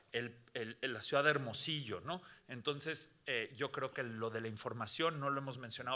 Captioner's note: speaking Spanish continues